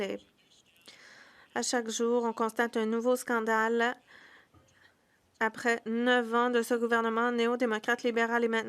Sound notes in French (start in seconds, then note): 1.2 voix de l'interprète